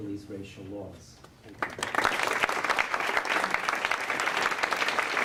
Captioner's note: applause